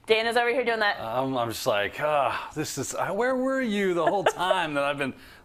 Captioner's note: laugh